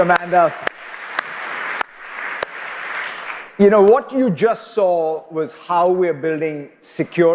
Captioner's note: applause